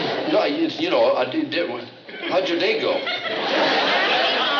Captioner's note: stammers